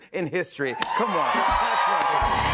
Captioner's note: cheers and applause